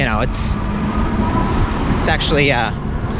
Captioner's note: electric motors whir loudly